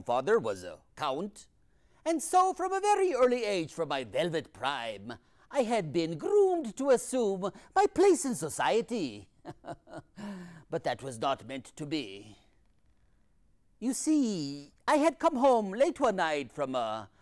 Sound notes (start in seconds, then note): 9.4 laughs